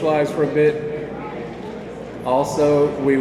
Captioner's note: attendees chattering